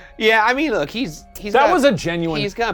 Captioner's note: none